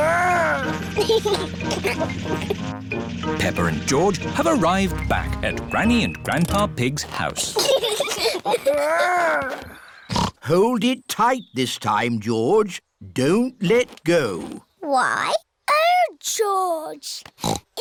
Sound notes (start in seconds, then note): 0.9 giggles; 7.4 both giggling; 10.0 snorts